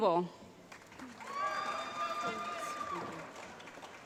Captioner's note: applause